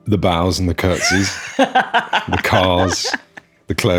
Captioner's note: laughing